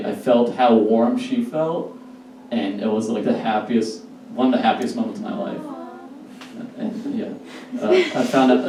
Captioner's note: audience: Awh